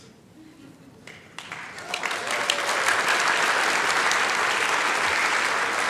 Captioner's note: applause